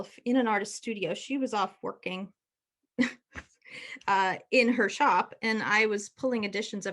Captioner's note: chuckles